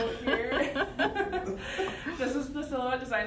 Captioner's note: laughter